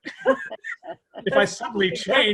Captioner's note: laughs